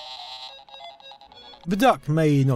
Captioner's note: the buzzing of flies